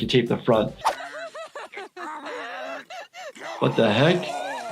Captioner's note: woman crying